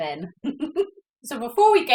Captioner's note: giggles